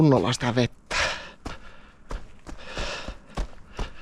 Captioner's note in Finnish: läähätys